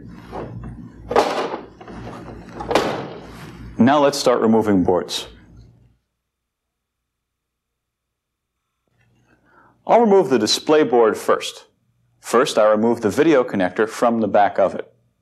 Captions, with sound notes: (clunk) (clunk) Now let's start removing boards. (silence) I'll remove the display board first. First, I remove the video connector from the back of it.